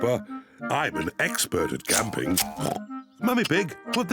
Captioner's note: oinks